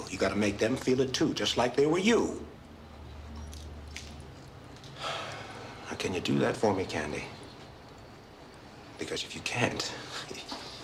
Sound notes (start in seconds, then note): 4.9 sighs